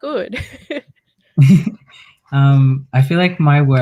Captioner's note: laughs